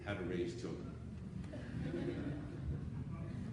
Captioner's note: laughing